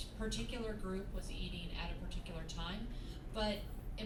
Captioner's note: none